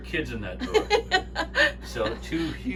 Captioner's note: laughs